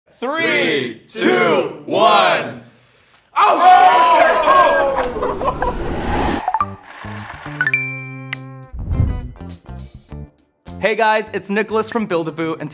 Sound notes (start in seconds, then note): 3.4 men cheering; 6.4 upbeat music; 6.8 counter whirring